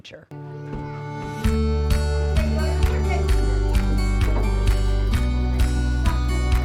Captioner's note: class chattering; upbeat music